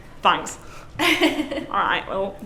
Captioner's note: laughs